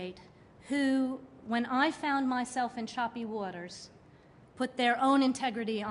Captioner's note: none